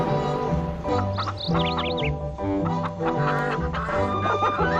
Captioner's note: chickens clucking